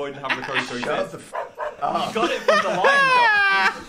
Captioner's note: dog barks